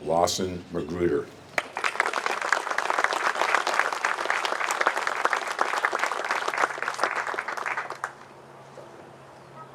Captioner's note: applause